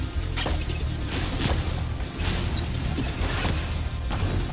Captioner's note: dramatic music; balloons popping